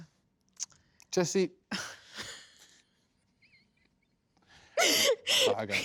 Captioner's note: laughs